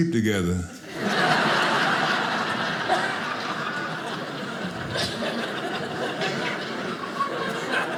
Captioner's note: audience laughing